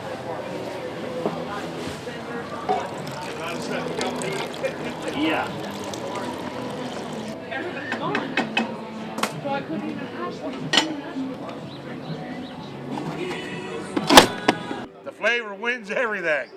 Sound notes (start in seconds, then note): 0.1 pouring sound; 5.7 lid closing; 5.7 onion chopping